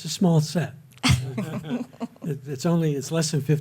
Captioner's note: chuckling